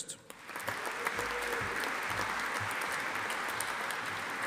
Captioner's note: audience applauding